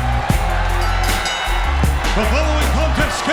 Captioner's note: bell ringing